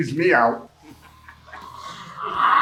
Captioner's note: crew laughing